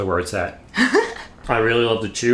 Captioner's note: laughs